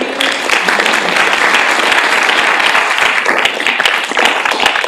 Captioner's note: audience applauding